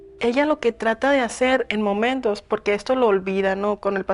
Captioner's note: in Spanish